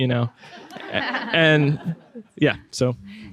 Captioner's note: laughing